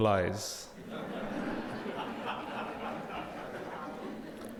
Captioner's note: audience laughing